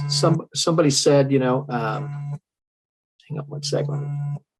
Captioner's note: alarm buzzes